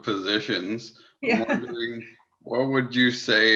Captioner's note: laughs